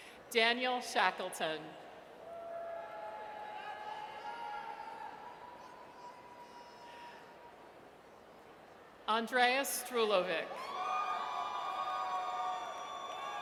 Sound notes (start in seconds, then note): 2.2 audience cheers; 6.7 audience member hollers; 10.6 audience cheers